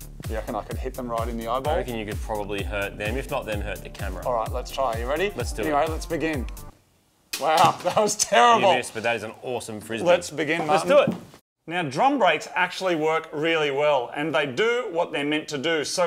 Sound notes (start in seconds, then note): 7.3 clattering; 8.4 chuckles